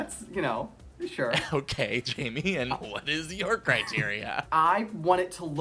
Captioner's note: laughing